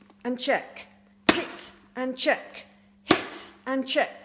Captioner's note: smacks; smacks